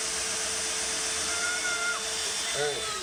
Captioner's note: playful screams